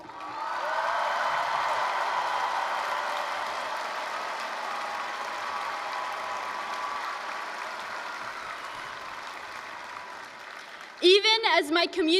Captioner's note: applause, cheering